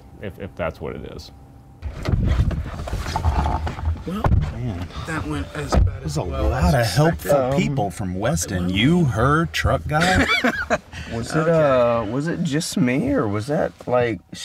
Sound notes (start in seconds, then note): 9.9 Josh laughing